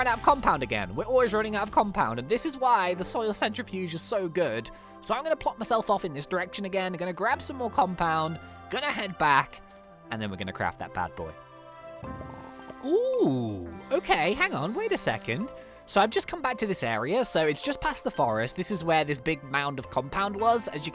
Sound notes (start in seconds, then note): 13.6 minerals bubbling